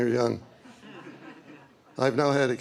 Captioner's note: laughter